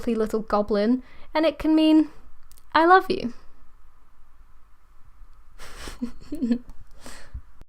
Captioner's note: laughter